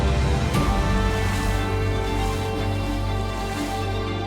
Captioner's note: water splashing